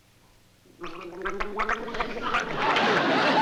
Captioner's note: gargling